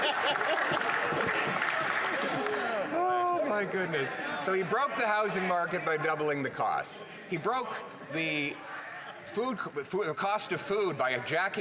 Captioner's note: some Laughter